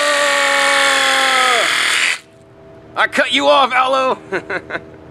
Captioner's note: saw buzzing